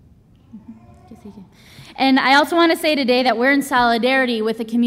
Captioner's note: speaks Spanish